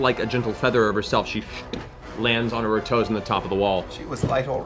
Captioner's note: light footfall